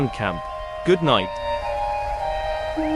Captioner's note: ribbit